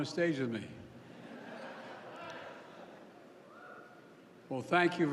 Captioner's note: laughter